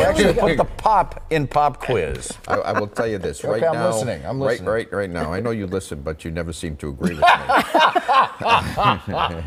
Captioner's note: laughter